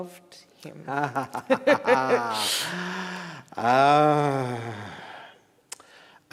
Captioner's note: chuckling